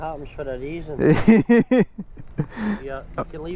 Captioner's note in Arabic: يضحك